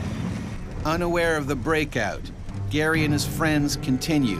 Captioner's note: voiceover